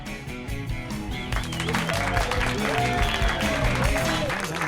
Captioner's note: cheering and whistling